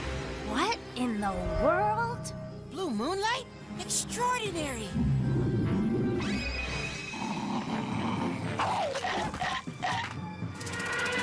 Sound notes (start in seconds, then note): 4.9 bear Growling; 7.0 squirrel Growling; 8.9 chomping Sounds